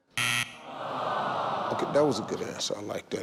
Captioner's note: buzzer rings; audience groans